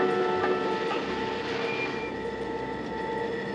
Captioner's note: machines humming